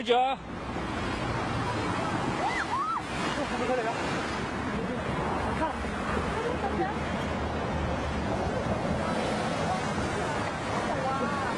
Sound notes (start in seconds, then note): 0.1 person speaking in foreign language; 2.5 person screaming; 6.2 traffic whooshing